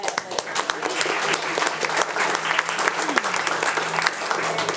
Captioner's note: attendees applauding